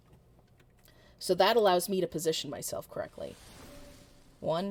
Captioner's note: ice crash landing